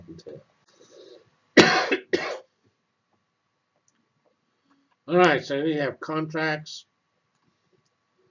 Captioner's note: cough